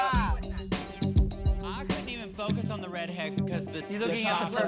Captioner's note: indistinct chatter